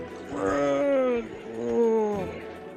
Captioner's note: zombie speak